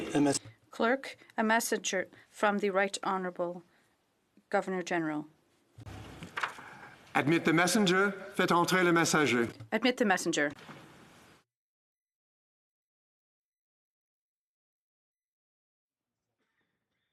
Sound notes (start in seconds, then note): 4.3 speaking French; 13.6 speaking French